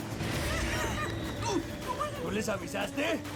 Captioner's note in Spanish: exclamaciones